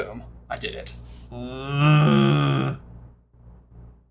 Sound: grunts

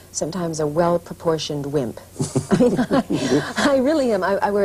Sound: laughter

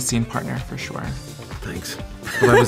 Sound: laughs

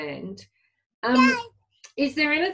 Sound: baby cooing

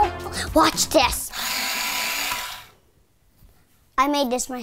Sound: pencil sharpener buzzes

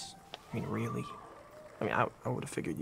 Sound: audience cheering

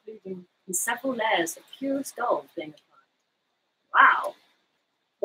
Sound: speaks quietly

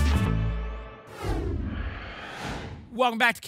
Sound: whoosh

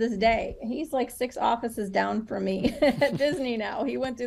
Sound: chuckle

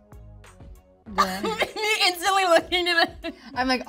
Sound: laughing

